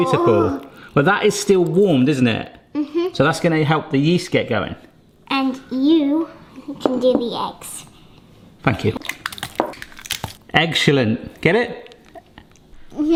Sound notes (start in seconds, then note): 8.9 eggs cracking